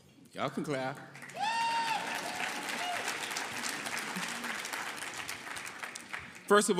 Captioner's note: audience cheering and applauding